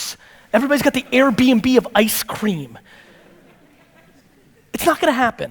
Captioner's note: audience laughter